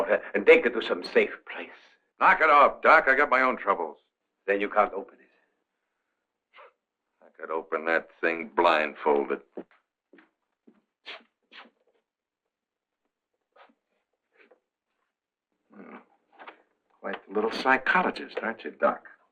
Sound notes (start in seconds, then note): 6.4 scoffing